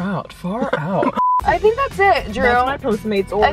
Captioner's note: high pitched beep